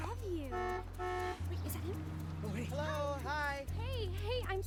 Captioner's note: horn honks